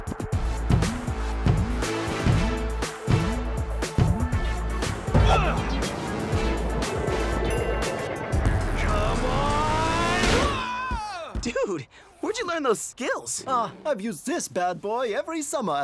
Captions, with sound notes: (rhythmic music) Come on! (screaming) - Dude! Where'd you learn those skills? - Oh, I've used this bad boy every summer